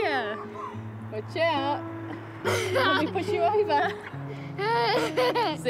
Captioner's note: laughs